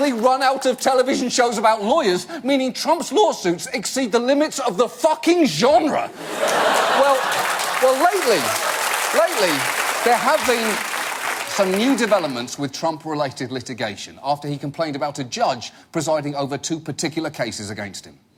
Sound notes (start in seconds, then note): 6.1 audience laugh and applaud